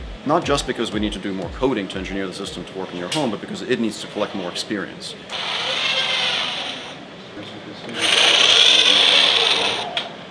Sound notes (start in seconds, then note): 5.6 robot whirring